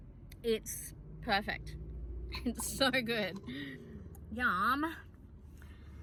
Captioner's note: chuckles